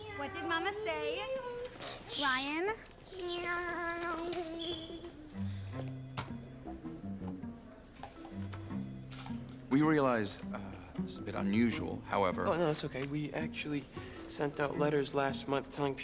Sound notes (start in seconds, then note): 4.0 thumps toy down